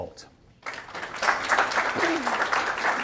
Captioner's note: audience applauds